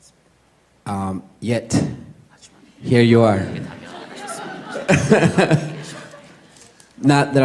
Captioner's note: questioner/Audience Laughter